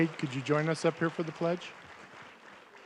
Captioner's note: applause